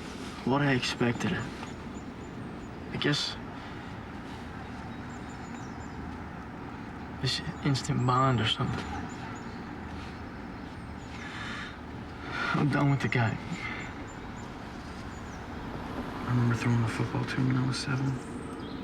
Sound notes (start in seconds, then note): 11.0 breathing raggedly